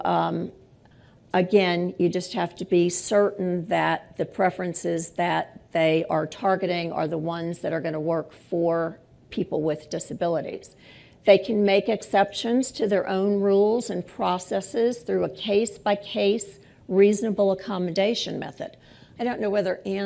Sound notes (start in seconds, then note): none